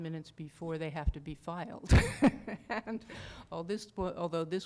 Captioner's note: laughter